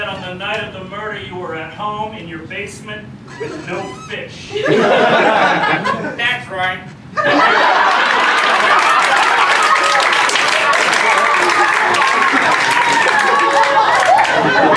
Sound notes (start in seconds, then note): 4.5 laughter; 6.1 weird voice; 7.2 laughter & applause